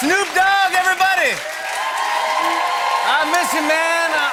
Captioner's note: cheers and applause